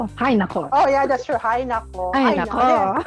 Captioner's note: laugh